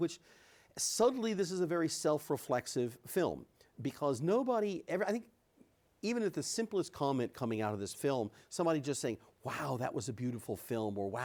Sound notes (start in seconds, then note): none